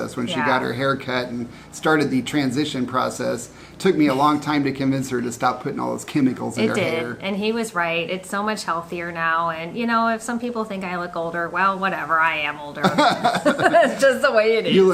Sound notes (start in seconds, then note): 12.8 laughing